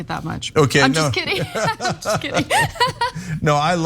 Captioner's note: laugh